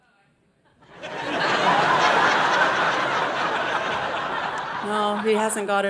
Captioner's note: audience laughing